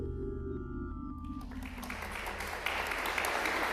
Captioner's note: applause